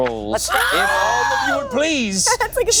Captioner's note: screeching